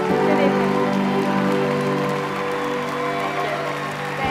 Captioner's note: applause